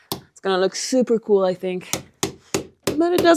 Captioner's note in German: Hammerklopfen